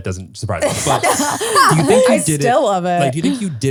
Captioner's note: laugh